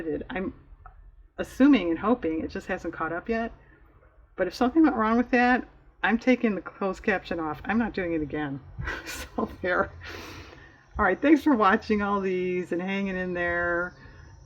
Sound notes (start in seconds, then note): 8.8 laughs